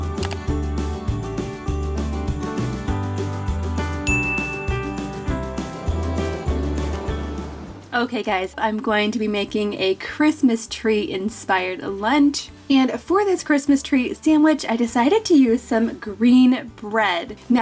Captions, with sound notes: (computer mouse clicks) (bell dings) (wind whistling) Okay, guys, I'm going to be making a Christmas tree inspired lunch. And for this Christmas tree sandwich, I decided to use some green bread.